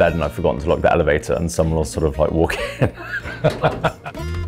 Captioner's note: laughs; jazzy guitar music